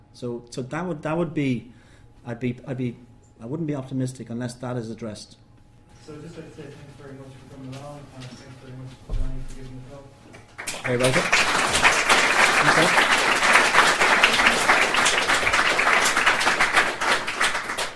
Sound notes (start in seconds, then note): 14.0 clapping